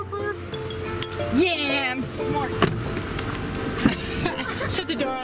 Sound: door shutting

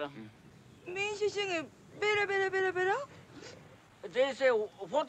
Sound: speaking Japanese

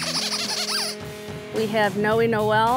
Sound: toy squeaking

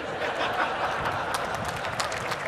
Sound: laughter; applause

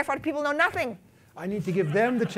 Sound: laughter

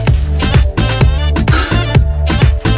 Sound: bin noise

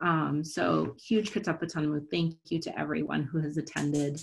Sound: non-english

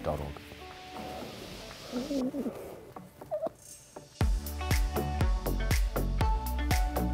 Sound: upbeat music; dogs whimpering

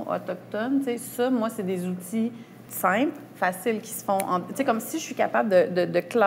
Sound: snaps fingers

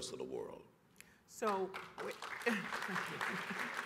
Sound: applause

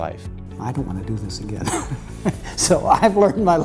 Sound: laughing

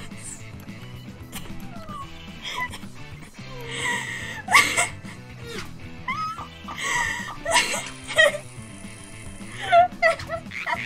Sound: through laughter; laughs

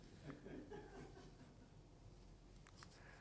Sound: chuckles

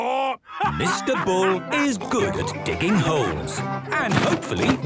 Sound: laughing

